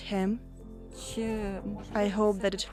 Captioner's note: speaking alternate language